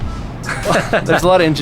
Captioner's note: laughter